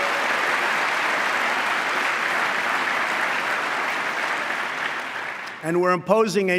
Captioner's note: applause